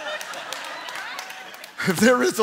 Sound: congregation laughing

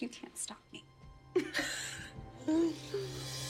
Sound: both laugh

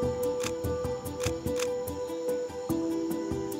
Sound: camera clicks

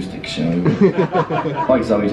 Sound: audience laughing

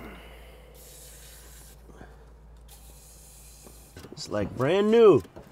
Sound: can swishing

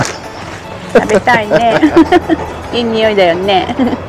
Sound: laughs; laughs

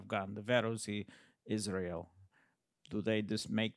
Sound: speaks in foreign language

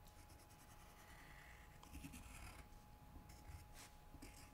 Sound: pencil scratching

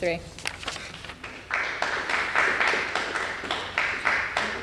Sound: applause

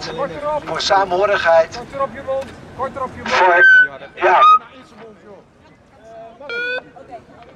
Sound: talk louder

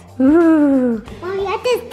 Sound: shivers

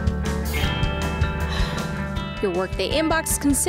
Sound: sigh

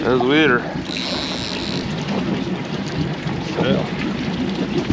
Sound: reel cranking

